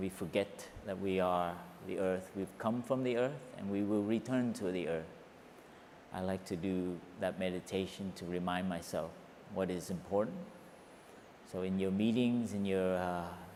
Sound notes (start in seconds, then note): none